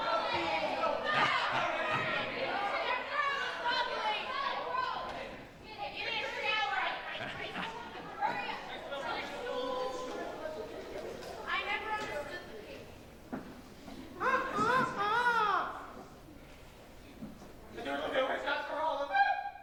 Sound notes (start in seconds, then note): 14.2 Peter crows